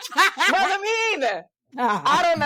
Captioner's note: laughing